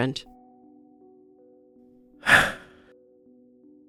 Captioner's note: sighs